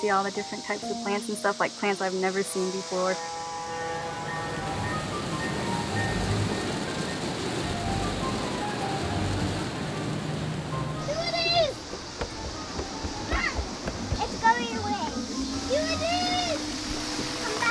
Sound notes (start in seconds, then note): 11.0 model train running